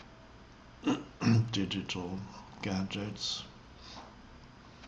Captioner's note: clears throat